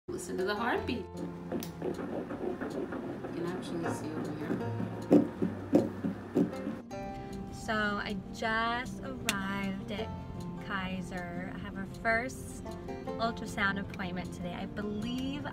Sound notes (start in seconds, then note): 1.0 heart beating